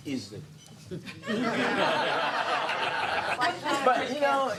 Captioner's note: laughing